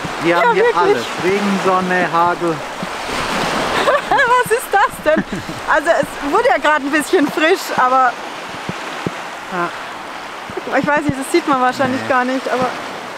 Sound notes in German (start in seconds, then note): 3.5 Lachen